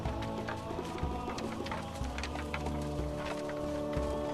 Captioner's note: none